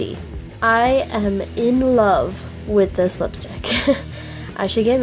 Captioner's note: laughs